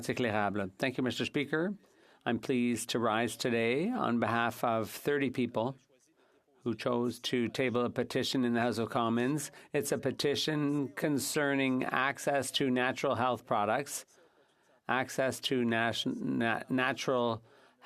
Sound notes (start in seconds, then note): 0.3 speaking French; 2.8 speaking French